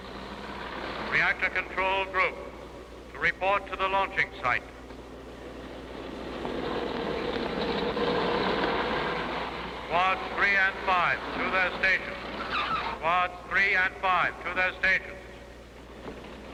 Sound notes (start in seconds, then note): 5.2 jeep engine running